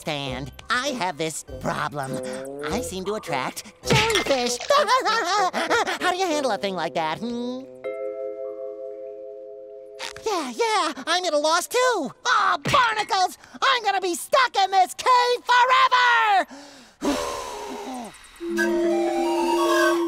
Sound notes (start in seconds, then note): 4.0 laughing; 17.9 whistling